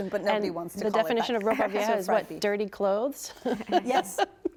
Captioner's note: laughs